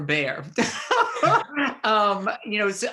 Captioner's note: laughs